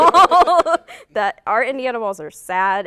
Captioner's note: laughter